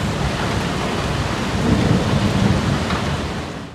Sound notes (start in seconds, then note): 0.0 the noise of the downpour... the roar of thunder